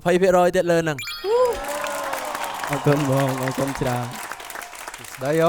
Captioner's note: cheering